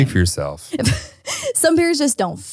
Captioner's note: laughs